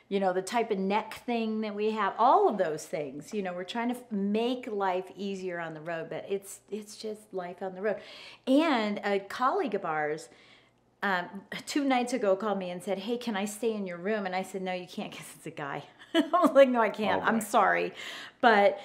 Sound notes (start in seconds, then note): 15.8 laughs